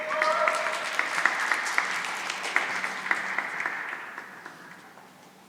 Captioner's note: cheering and applause